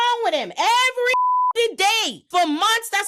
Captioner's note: beep